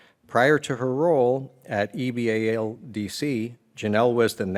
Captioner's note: none